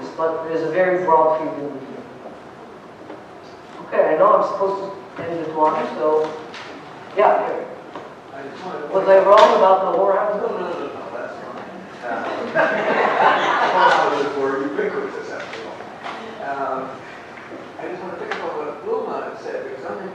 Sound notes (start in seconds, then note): 12.2 laughter